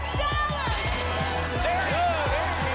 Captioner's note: static